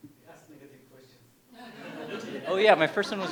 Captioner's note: laughter